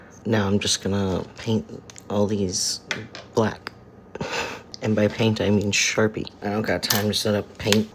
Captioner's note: chuckle